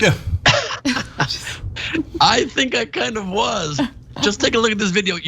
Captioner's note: laugh